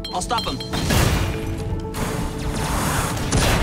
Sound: grenade exploding

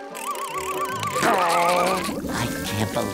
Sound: groaning

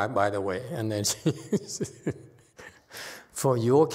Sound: laughs

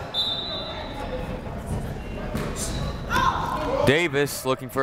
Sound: whistle blowing

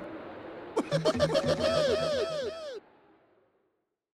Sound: Tigger Laughing

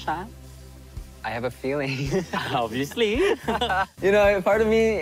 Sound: chuckles

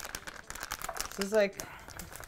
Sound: wrapping crinkles

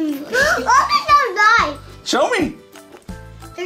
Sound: none

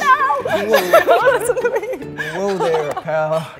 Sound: group laughing

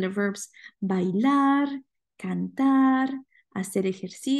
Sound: speaking spanish

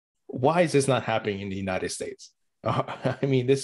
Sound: laughs

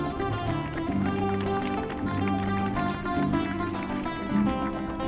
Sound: audience applauding

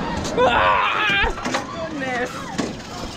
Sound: shouts

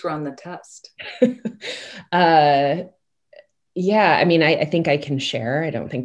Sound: chuckles

